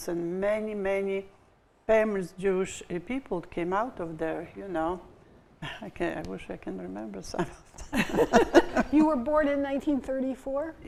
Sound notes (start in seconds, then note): 7.6 chuckles; 7.8 laughing